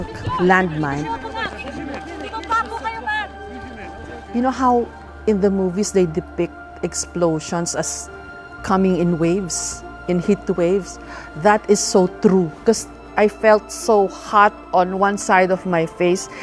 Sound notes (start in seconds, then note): 0.0 crowd of people talking at once